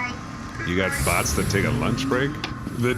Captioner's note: morgue door slides open, morgue bots exit